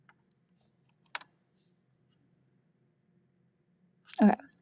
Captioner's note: keyboard clacking